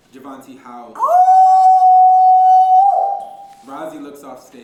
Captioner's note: loud howl